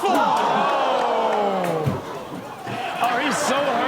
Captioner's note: everyone exclaims